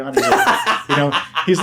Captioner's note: laughing